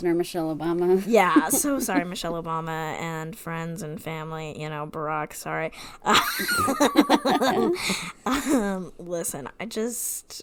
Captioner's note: laughs